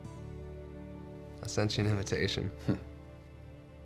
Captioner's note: chuckles